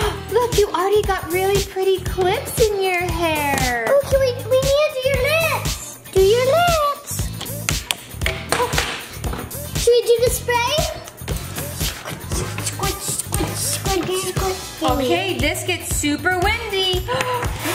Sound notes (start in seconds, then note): 12.6 making spray noises